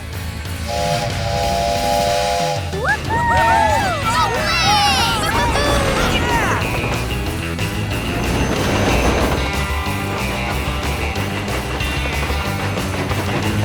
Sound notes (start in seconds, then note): 0.6 train horn blowing; 2.6 cheering